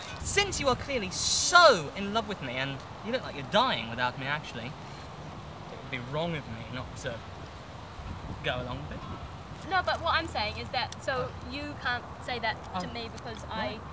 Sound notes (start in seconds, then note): none